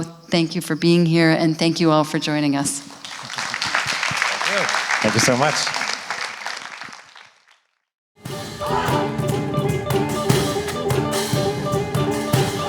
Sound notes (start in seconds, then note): 2.9 audience applauding